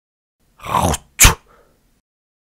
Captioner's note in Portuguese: cuspe